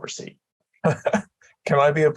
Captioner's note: laughter